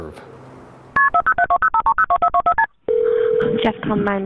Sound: phone ringing; phone keypad beeping

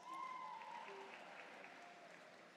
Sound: cheers and Applause

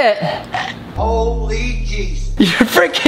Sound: voiceover

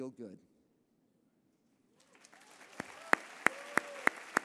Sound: applause

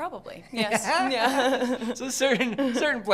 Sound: laugh

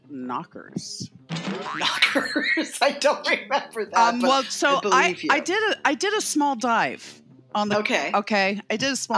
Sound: boing!

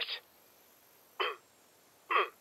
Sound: clears throat

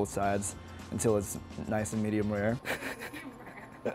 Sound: laughs

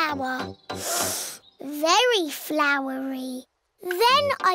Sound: sniffs

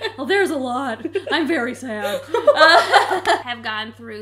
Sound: laughing

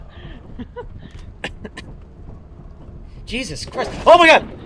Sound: cough

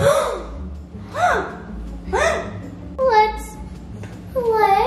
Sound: children gasping; machine beeping

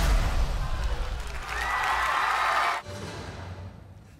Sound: dance music; crowd cheering

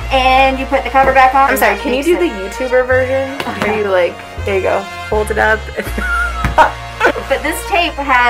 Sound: laughter

